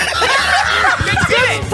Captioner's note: laughs